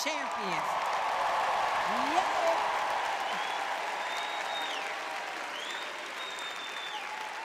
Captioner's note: audience cheering